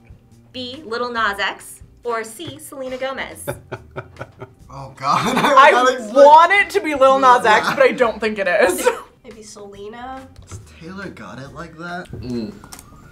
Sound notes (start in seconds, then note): 3.3 chuckles; 3.5 laughs silently